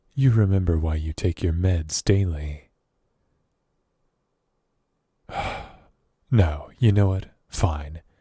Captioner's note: sigh